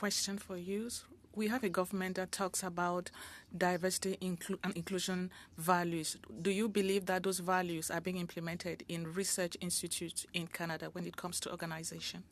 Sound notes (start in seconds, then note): 5.3 speaking French